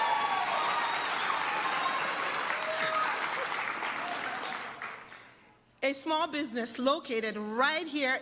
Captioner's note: applause